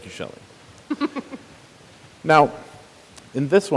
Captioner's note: chuckles